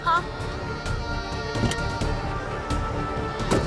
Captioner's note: car door opens; car door closes